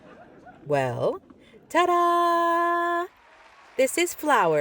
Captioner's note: audience clapping